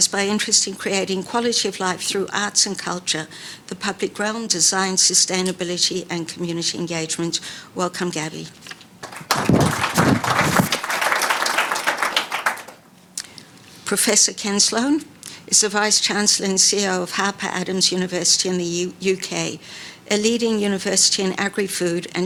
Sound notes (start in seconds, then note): 9.0 audience applauding; 9.0 paper rustling; 9.0 mic whooshing; 11.0 audience applauding